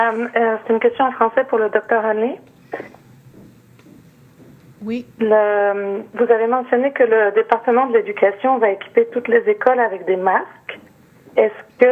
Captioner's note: speaking French